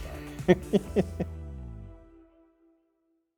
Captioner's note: laughing